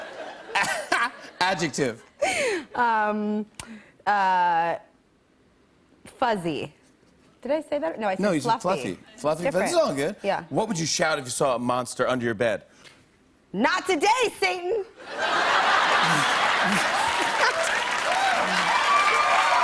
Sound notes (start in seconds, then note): 15.0 laughter; 15.3 cheers and applause